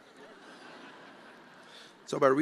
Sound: attendees laughing

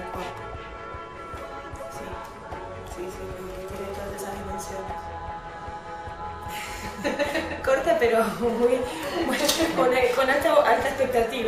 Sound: laughs

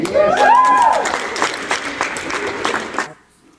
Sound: clapping

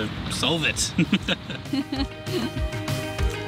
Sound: laugh

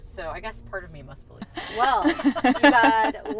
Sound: laughs

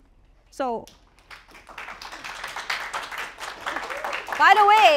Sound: applause

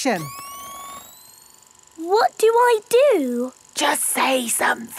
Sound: camera whirring; whispering

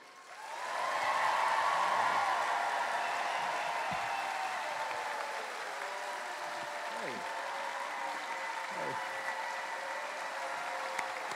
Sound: cheering

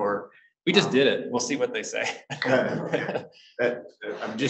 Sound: laughs

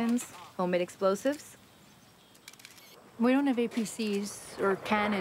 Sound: jet engines roaring

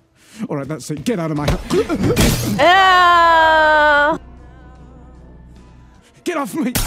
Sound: gasping

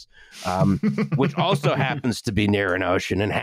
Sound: laughs

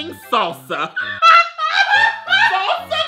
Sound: laughs hysterically

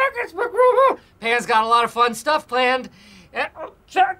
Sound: high-pitched voice

